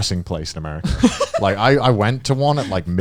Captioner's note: chuckling